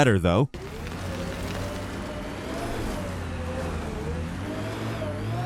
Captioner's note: car engine revving